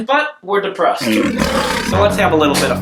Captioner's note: lion growling